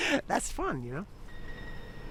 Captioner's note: laughs